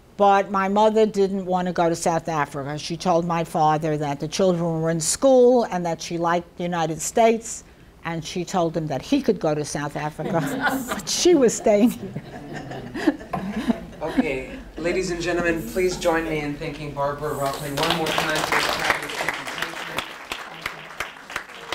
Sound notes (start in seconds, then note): 10.2 people in audience laugh; 13.0 laughs; 17.4 audience applauds